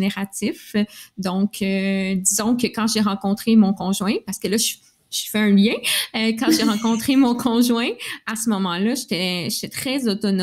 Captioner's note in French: rires